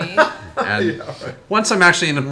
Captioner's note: laughs